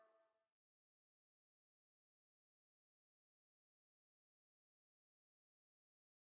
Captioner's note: silence